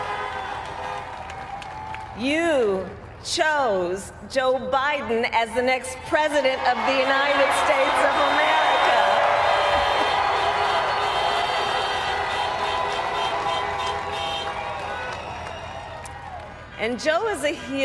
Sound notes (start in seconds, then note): 0.0 applaud; 11.3 cheers